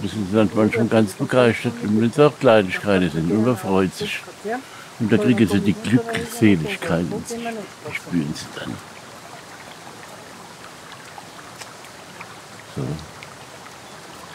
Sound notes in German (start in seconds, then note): 10.3 Wasserplätschern